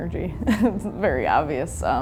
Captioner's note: chuckles